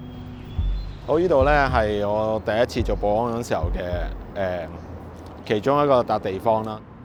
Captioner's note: birds chirp